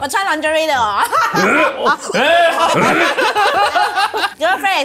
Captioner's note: laughs; Retching